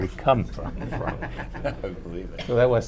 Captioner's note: laughter